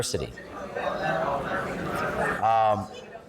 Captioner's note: chatter